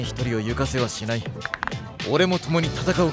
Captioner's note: knuckles cracking